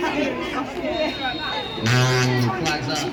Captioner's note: whistle